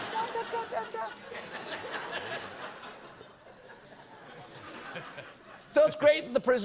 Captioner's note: laughter